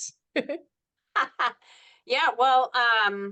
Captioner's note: laugh